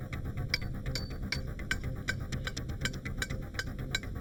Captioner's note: metal clanging